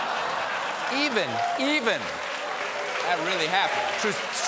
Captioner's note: laughter